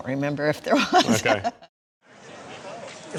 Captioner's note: laughs